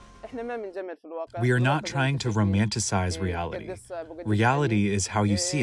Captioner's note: through translator